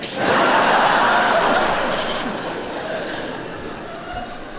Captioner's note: laughter